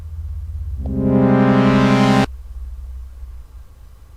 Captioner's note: loud tones